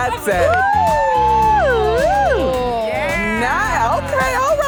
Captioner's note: cat calling and hooting